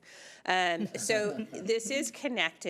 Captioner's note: chuckling